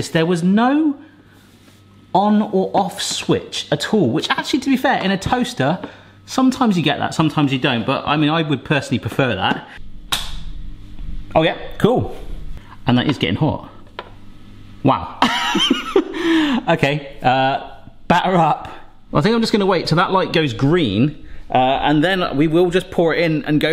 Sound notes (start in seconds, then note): 10.1 gadget clicking; 15.2 laughing